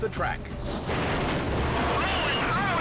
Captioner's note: car clashes